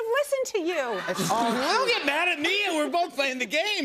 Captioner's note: laughter